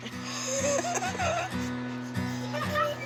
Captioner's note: giggling; laughs